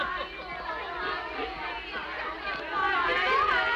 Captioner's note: girls chattering